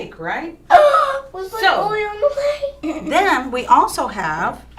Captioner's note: gasps